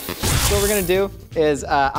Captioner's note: laser sound